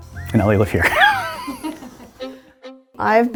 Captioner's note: laughing